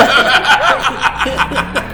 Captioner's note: both laughing